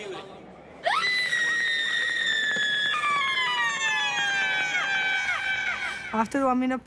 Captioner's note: VISITOR 4 Screaming